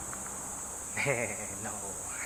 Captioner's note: laughs